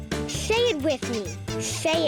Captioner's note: squeaking